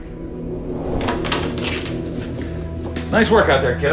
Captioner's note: door creaks